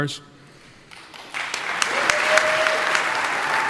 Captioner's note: audience applauding; audience cheering